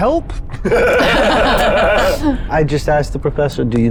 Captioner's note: everyone laughs